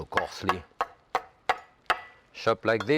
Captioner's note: knife tapping